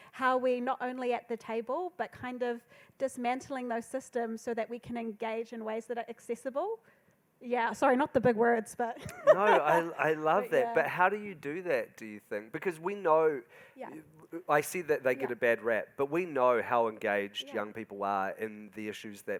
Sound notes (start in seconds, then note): 9.0 laughs